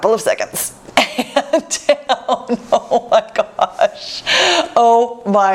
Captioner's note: laughs